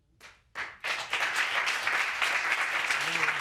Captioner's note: applause